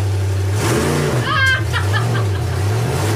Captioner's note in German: Motorheulen, Schrei